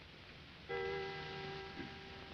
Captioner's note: clock chimes